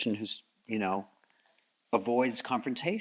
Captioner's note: none